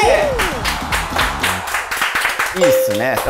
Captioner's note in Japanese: 拍手